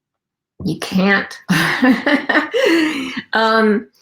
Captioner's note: laughing